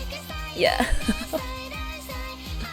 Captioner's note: laughs